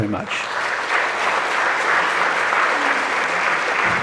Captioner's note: audience applauds